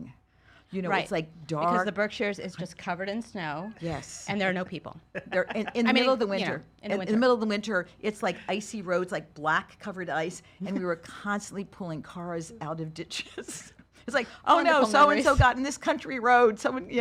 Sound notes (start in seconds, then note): 5.1 laughs